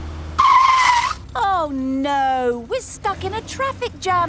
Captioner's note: tires screeching